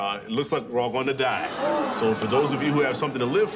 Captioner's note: crowd gasps